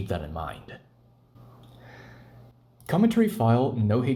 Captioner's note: deep inhalation